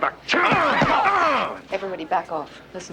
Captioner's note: Mike grunts